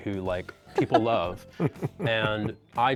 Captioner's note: laughs